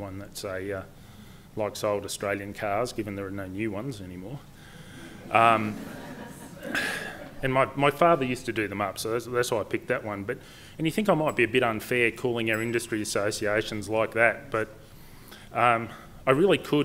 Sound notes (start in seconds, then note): 5.0 laughter